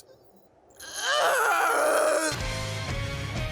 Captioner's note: sobbing continues